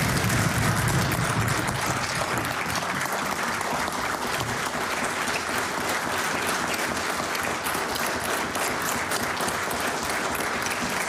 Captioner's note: applause